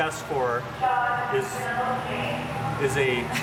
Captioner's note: woman talking over loudspeaker